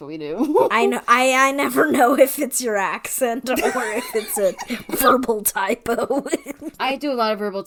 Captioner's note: laughing